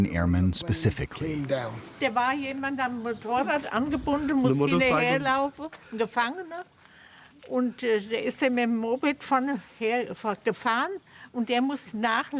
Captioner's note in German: spricht Deutsch